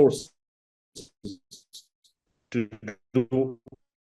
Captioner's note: audio distorts